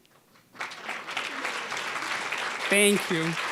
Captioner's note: applause